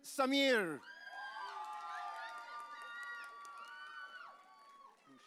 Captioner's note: audience cheering